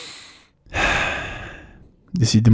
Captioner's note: and sad breathe out; sad breathe in